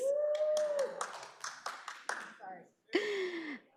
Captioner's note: audience cheers